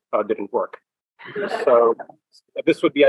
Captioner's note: laughter